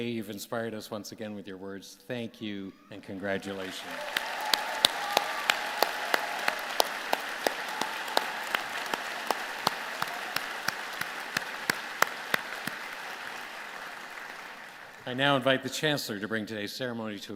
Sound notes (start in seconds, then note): 4.9 applause